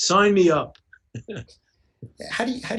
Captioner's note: chuckles